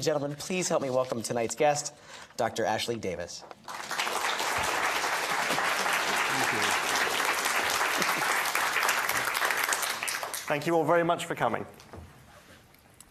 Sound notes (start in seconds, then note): 3.6 audience applauds